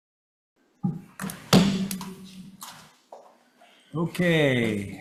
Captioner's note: gavel pounds